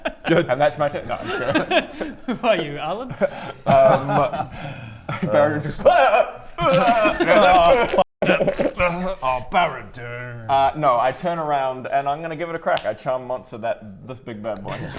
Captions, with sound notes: good and that's my turn no I'm joking! Who are you? Alan? Um... -Baradun's just aaaraahahahhh! *tearful shitting noises* Aw f*** Oh Baradun Uh no I turn around and I'm gonna give it a crack I charm monster, this big bad boi